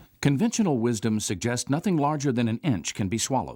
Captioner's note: voiceover